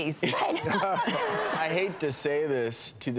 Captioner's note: audience laughs